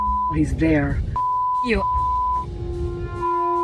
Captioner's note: beep